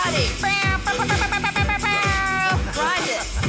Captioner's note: imitates air horn